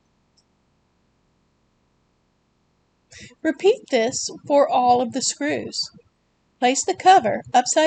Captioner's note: pause